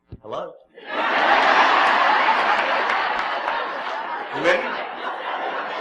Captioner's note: calmly; laughs